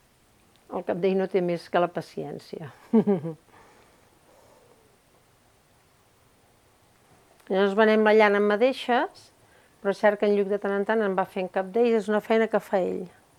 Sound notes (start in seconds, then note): 2.8 laughs